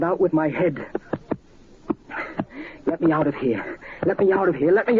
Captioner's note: head thumping